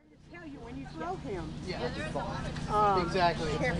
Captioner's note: people Talking